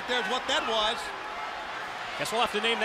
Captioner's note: crowd chatter